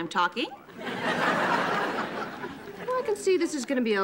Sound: audience laughing

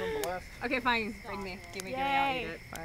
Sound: laughter/chatter

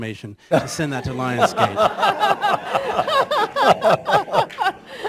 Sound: laughter

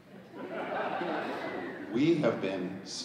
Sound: audience laughing

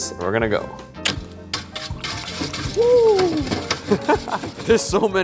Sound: dishes clanking; giggles

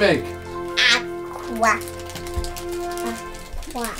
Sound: quacks

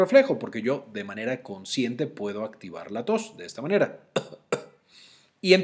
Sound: coughs

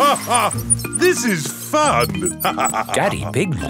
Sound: laughs

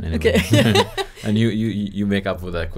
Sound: laughs

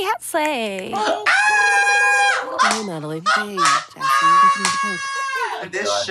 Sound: Trixie and Katya laughing

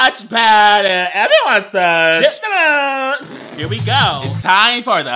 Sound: laughs

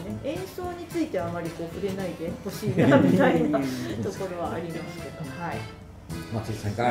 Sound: laughter

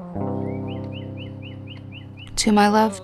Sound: bird chirps

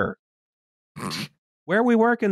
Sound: laugh-snorts

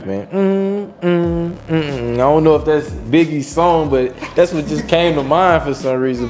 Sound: humming

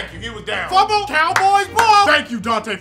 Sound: claps

